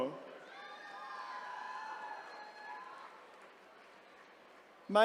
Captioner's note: attendees cheering